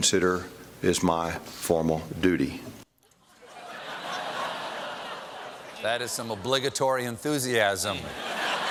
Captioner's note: laughter